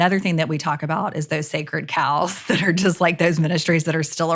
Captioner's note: chuckles